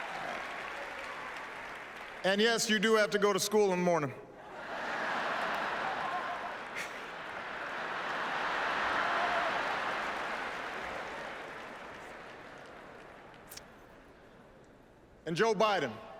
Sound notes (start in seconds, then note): 0.0 applause; 10.8 laughter